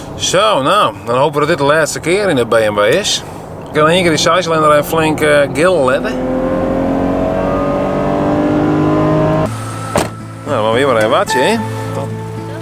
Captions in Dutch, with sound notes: Zo, nou.. dan hopen we dat dit de laatste keer is in de BMW Nog één keer flink die 6-cilinder gillen laten. [geluid van een gillende BMW 520i zescilinder] Moeten we hier maar even wachten he..